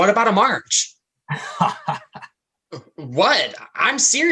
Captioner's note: laughs